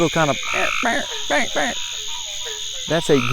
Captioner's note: Sheldon imitating frog sound